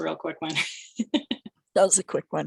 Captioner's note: laughter